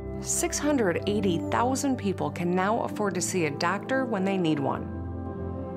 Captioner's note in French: none